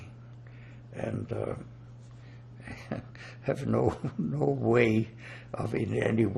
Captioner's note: laughing